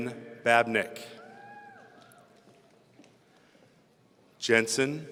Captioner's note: audience cheering